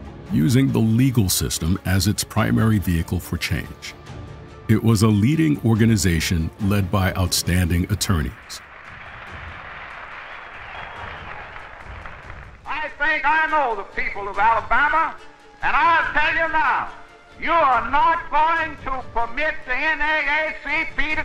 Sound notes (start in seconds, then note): 9.7 crowd cheering and applauding